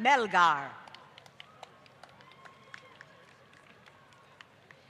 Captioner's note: applause